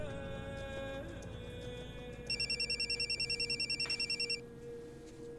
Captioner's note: phone ringing